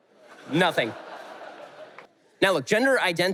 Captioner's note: audience laughter